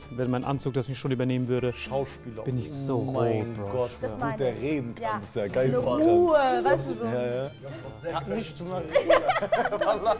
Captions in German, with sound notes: Wenn mein Anzug das nicht übernehmen würde ... Schauspieler. - ... bin ich so rot. Mein Gott. - Das meine ich. Diese Ruhe, weißt du? So ... - Ja. Hat nicht mal ... (Lachen)